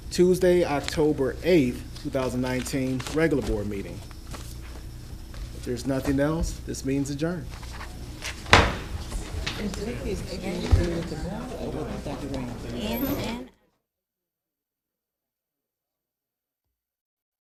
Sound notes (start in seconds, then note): 8.5 gavel banging